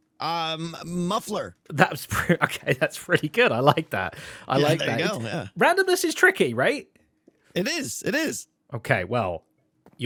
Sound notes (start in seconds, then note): 2.1 laughs